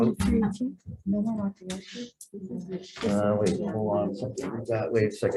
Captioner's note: committee talking